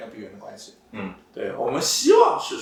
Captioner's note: nonverbal grunt as interjection